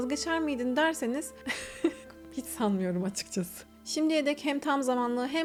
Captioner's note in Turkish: kahkaha